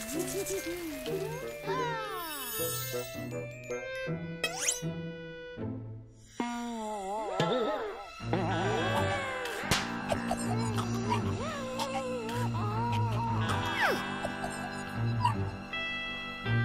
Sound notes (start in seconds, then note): 0.0 giggling; 10.0 gagging and choking